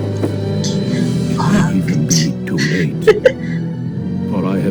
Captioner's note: laughter